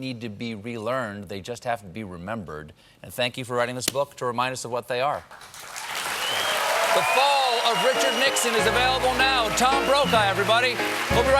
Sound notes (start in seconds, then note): 5.4 cheers and applause